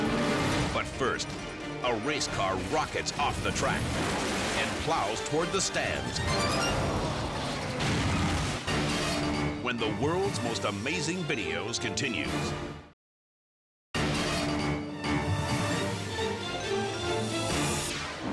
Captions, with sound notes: But first, a race car rockets off the track and plows toward the stands. (cars crashing) When the "World's Most Amazing Videos" continues. (dramatic music)